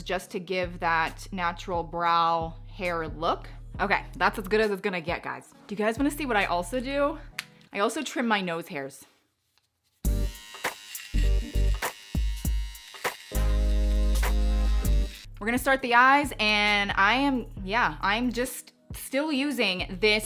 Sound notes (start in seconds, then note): 10.0 trimmer buzzing; 11.2 rhythmic music